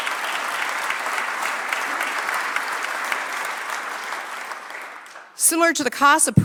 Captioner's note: applause